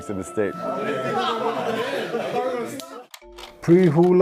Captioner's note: laughing